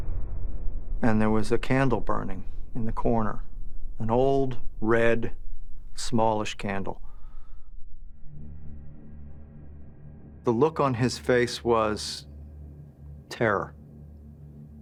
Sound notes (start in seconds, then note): none